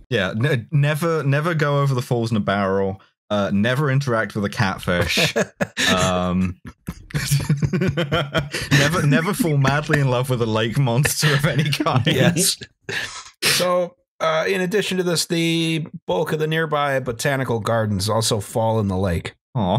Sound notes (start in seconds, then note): 6.2 laughs; 6.6 laughter